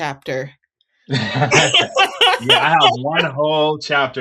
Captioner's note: both laughing